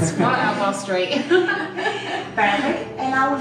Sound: laughing

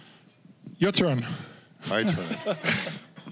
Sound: audience laughing

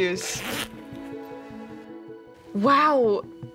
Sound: zipper buzzes

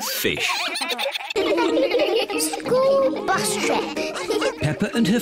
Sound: giggling

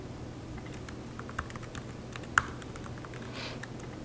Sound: keyboard clacking

